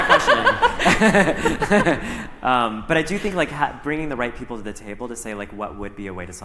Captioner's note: laughter